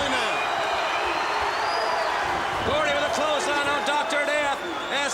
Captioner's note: applause